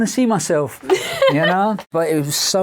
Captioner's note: laughing